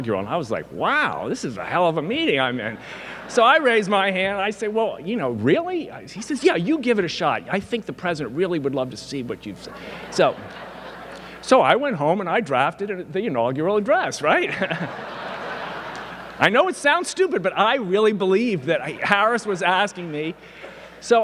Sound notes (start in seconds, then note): 9.6 audience laughing; 9.8 stammers; 14.2 audience laughing; 14.3 laughs